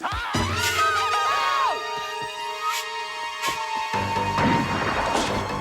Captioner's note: man yelling; Taryn screaming; gun firing; dramatic music